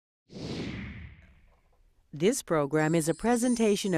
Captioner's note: rushing wind